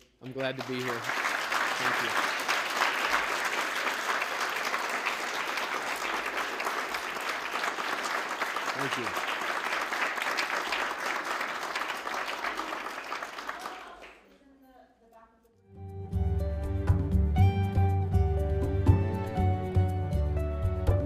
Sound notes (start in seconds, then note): 4.3 applause; 8.5 applause continues; 15.8 closing music